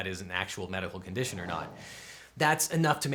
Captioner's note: logo whooshes in